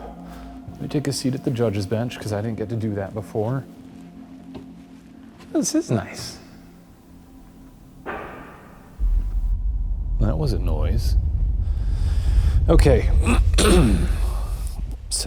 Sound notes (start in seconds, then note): 8.0 knock thuds; 11.6 inhales deeply; 13.2 clears throat